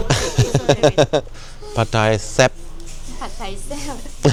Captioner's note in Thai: เสียงหัวเราะ